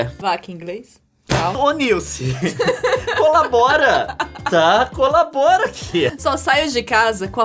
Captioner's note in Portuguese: risadas; mais risadas